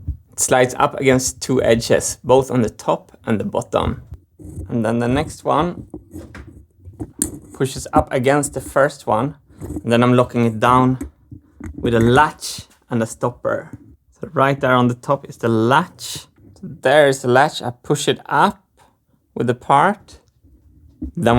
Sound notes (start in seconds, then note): none